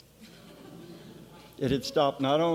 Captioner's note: laughing